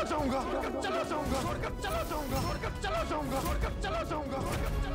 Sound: echoing

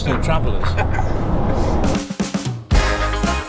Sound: laughing; bright music

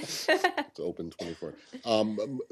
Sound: laughter

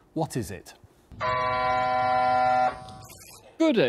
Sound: buzzer buzzes; machine buzzes

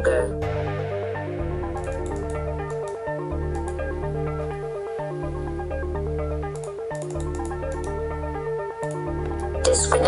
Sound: mouse clicking

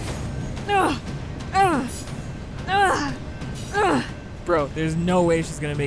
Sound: intense music; grunting

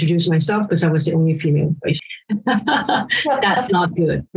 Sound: laughs

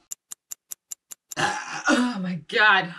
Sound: timer ticking

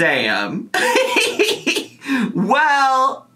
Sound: laughs

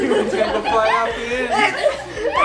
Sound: laughing

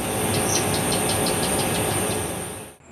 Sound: another gecko going chak chak chak

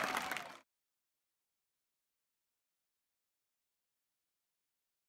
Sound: applause and cheers; sound fades

